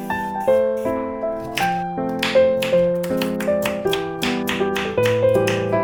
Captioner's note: chop, chop, chop